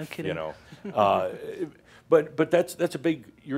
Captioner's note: she chuckles